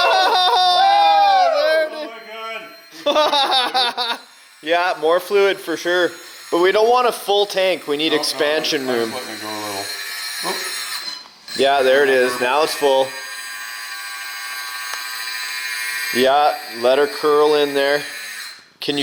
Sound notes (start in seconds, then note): 3.0 laughter